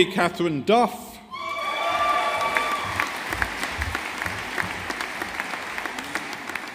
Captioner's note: audience applauding